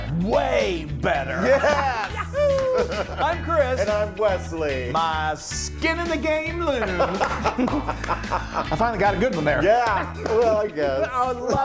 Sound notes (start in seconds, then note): 6.7 laughing; 7.0 clapping